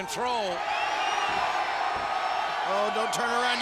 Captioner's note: troops cheer